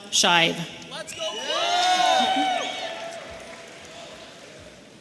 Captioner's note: audience cheering